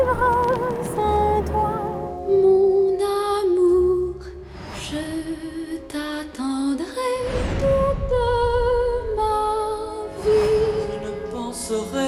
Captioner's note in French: chant